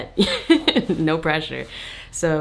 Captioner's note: chuckles